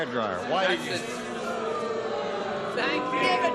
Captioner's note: booing